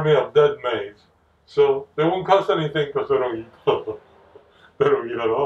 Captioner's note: laugh